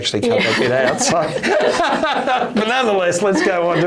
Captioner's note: both laughing